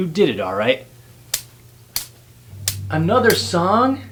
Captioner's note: sticks clapping